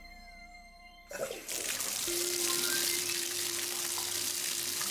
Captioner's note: unsettling music; water splashes